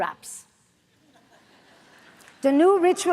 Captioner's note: audience laughs